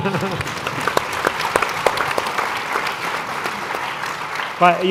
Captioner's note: applause